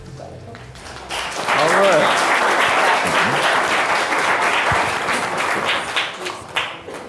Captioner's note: crowd clapping